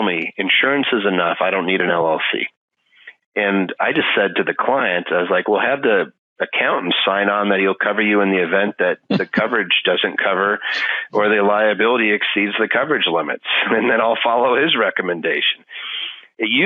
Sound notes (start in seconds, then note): 9.0 laughing